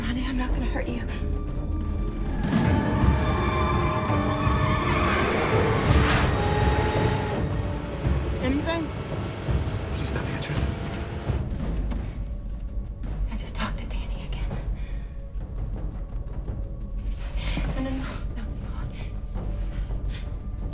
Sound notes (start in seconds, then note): 0.0 suspenseful music; 2.7 car tires screeching; 11.9 suspenseful music